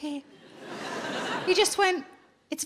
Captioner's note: audience laughs